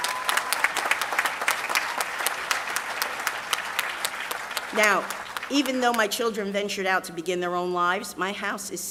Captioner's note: applause